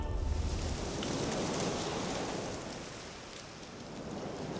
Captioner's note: wind, leaves rustling